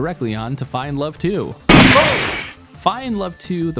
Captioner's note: gunshot